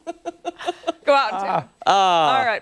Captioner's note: laughter